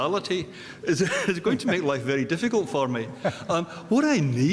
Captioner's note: chuckles